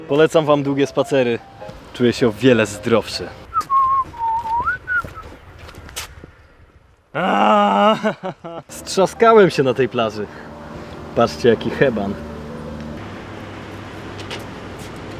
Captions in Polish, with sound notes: Polecam wam długie spacery. Czuję się o wiele zdrowszy. *gwiżdże* *ciężko wzdycha i płacze* Strzaskałem się na tej plaży. Patrzcie jaki heban.